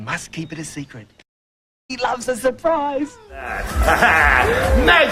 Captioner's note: laughs